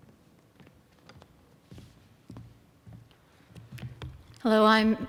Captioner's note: footsteps